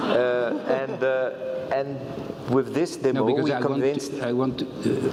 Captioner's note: laugh